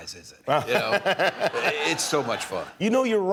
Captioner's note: laughter